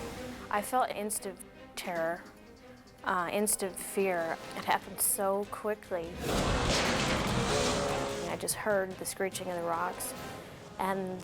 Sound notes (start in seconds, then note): 6.1 dramatic whoosh; 6.2 boat slamming; 7.8 boat buzzing